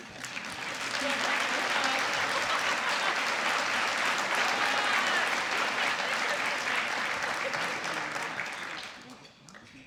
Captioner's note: applause